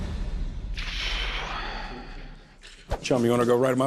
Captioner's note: exhales